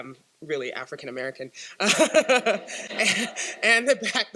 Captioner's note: laughs